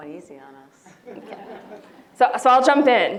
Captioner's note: audience laughs